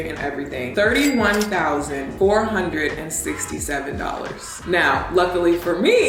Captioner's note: cash register chiming